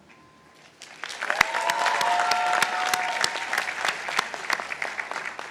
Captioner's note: participants applauding